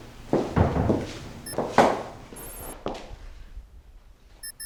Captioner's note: beeping